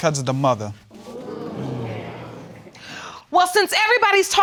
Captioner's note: audience murmuring